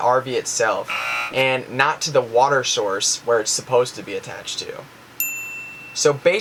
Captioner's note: ding